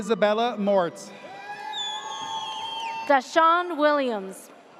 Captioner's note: audience cheers